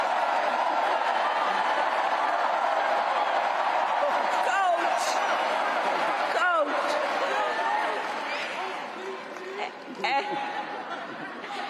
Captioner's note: cheers and applause